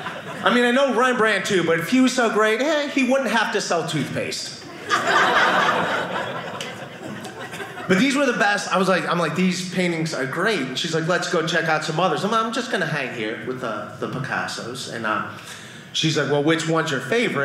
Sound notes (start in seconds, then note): 4.6 audience laughing